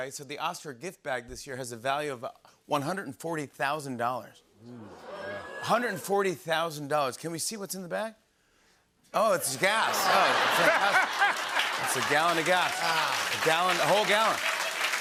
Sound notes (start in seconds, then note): 4.7 audience oohs; 9.6 laughter